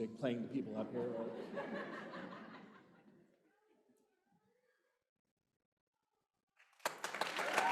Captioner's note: laughter; applause